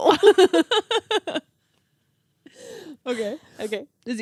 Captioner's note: laughing